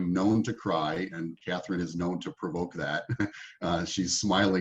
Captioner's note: laughing